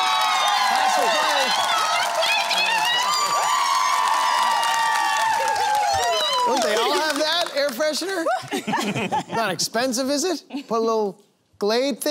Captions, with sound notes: -Pass or play? -We're gonna play, Gerry! [Cheering] Don't they all have that, air freshener? Not expensive, is it? Put a little Glade thing there.